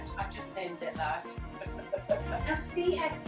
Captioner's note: laughs